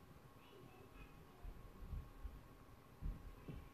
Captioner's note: kids chattering